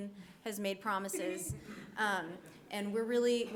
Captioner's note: people laughing